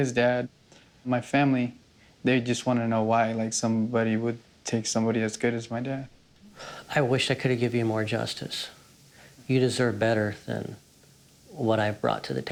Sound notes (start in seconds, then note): 6.4 sighs